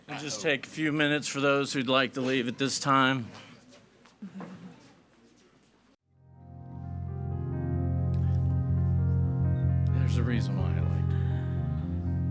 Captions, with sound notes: - I'll just take a few minutes for those who'd like to leave at this time. (audience speaking faintly) (gentle upbeat music) There's a reason why I like.